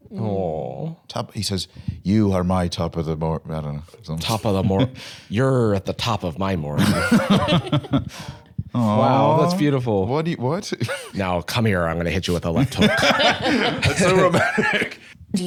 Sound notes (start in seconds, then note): 6.8 all chuckling